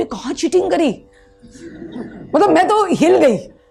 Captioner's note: audience laughs